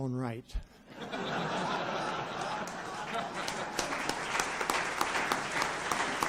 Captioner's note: audience laughs and applauds